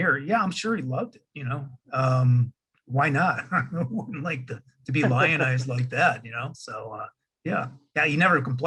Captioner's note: laughing